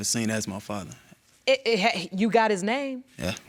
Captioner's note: stammering